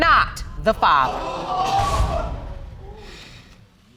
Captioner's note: audience exclaiming